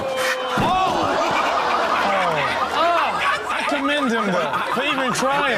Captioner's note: audience groans and laughs